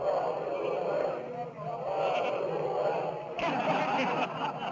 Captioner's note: chanting continues; men laughing